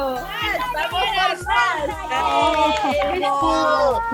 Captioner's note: cheering